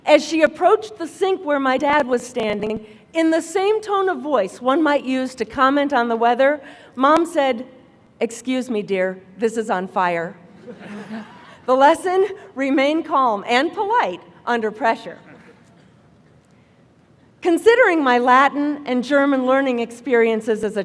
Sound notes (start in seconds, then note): 10.5 laughter